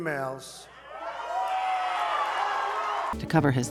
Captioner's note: audience Cheering